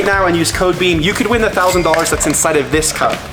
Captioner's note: cha ching sound